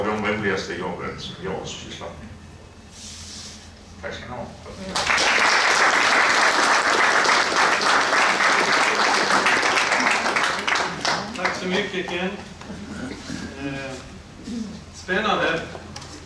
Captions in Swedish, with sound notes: de roligaste jobben som jag har sysslat med. Tack ska ni ha! [Applåder] Tack så mycket, Ken! Spännande.